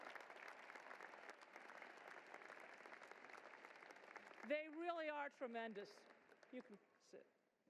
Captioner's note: applause